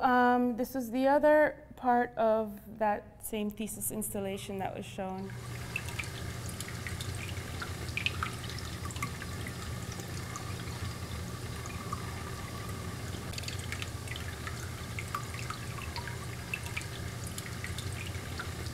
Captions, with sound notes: This was the other part of that same thesis installation that was shown. (water trickling)